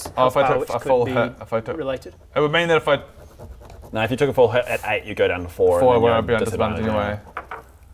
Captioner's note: none